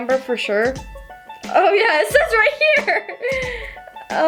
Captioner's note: laughs